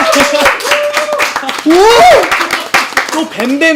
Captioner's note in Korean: 환호